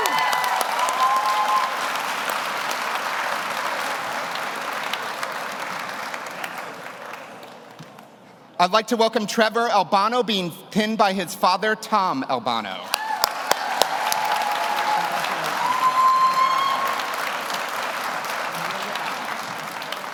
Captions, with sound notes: (audience cheers) (audience applauds) I'd like to welcome Trevor Albano, being pinned by his father, Tom Albano. (audience cheers) (audience applauds)